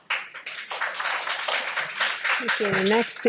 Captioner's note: audience applauds